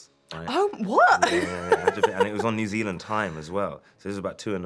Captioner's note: laughs